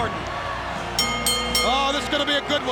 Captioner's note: bell dings